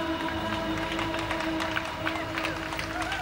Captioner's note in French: applaudissements